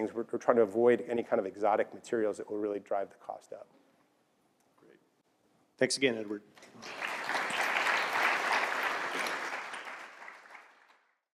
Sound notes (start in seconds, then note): 6.6 applause